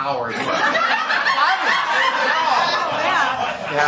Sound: laughter

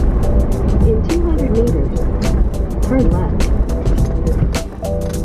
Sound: Google Maps voice: "In 200 meters, turn left"

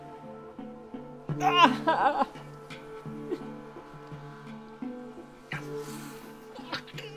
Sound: he cries in pain

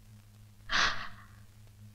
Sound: gasps

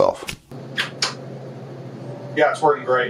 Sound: button clicks

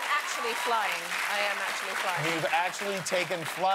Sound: cheers and applause

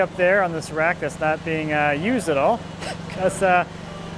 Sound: laughs

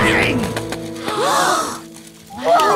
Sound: all gasp; cheering

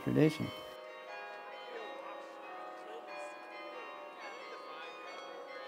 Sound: tower bells chiming

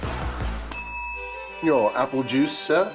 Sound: rings bell; classical music playing

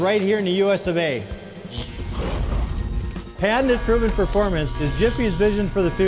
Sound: auger motor; fire sound

